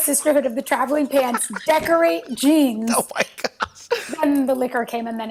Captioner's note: laughs